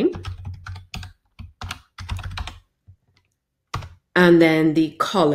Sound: keyboard typing

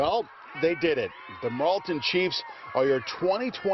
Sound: cheers and applause

